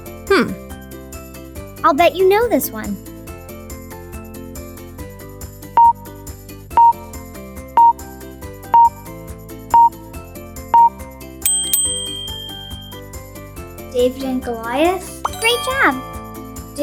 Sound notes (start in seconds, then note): 5.7 timer beeping; 5.7 upbeat music continues; 11.4 bell dings